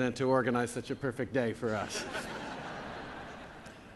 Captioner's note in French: Rires